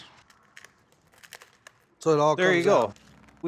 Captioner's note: shelling